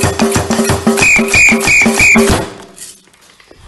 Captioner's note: four whistling sounds